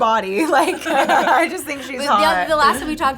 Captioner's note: laugh